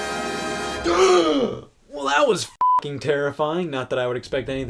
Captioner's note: gasp